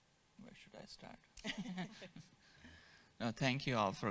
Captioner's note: all chuckle